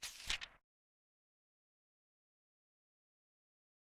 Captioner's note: page turning